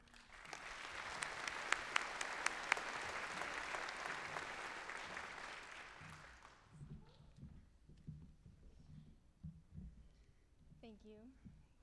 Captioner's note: applause